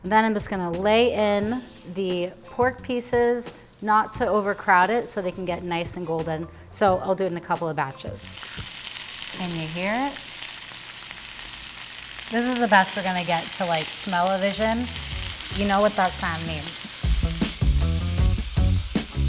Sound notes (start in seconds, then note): 9.5 meat sizzling; 19.1 upbeat music